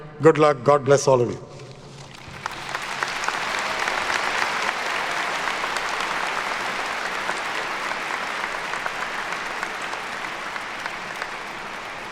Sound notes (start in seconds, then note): 2.8 attendees clapping